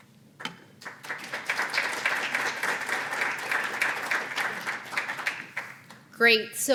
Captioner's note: applause